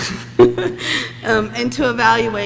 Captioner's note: laughs